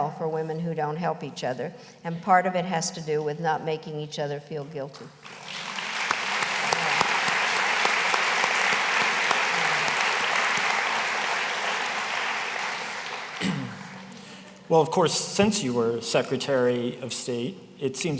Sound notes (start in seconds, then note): 6.3 applause